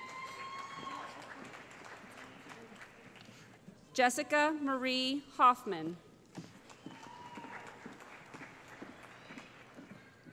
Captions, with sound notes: [ Cheering ] Jessica Marie Hoffman [ Applause ]